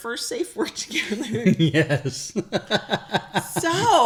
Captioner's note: laughs